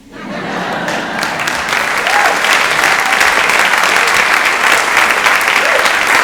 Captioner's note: audience laughing and applauding